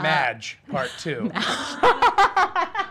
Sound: laughing

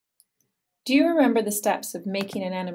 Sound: voiceover

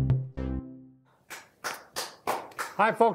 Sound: clapping

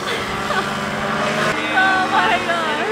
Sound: laughing

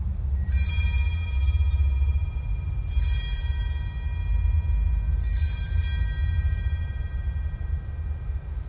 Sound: bells ring three times

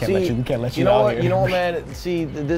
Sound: laughs

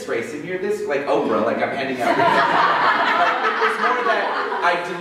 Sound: laughter

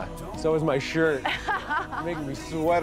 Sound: laughs

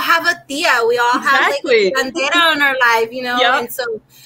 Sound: speaking foreign language

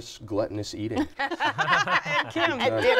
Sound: laughter

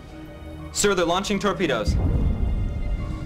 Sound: explosion

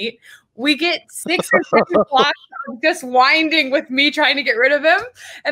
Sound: speaks faintly

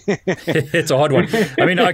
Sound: both laughing

